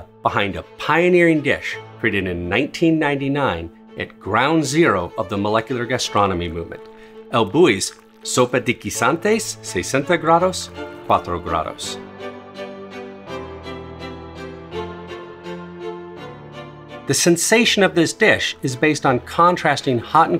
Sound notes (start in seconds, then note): 8.6 speaks in foreign language; 12.1 dramatic music